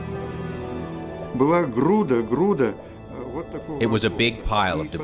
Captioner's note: speaking in Russian